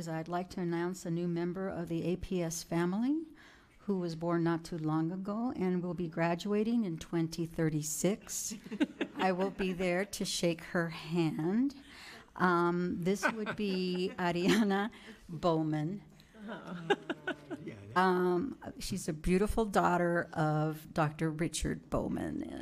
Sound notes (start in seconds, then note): 16.4 audience laughing